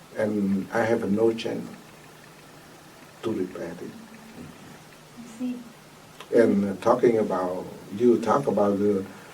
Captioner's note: coughs